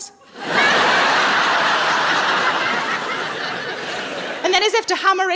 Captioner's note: audience laughing